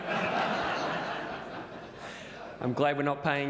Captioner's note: audience laughs